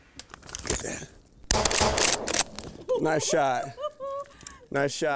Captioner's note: whispers; gun shots